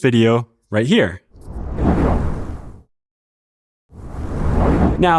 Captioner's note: whoosh